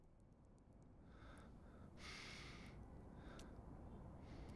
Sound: Hollywood breathing heavily

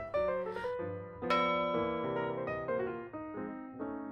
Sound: ding

